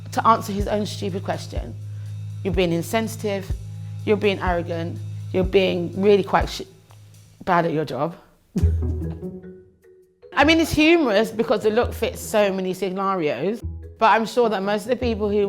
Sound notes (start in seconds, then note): 8.5 laughs; 8.5 upbeat music